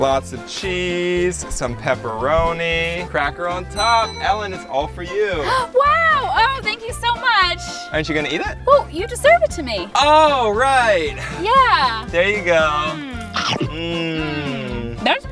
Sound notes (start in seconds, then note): 3.7 bell dings; 13.5 crunching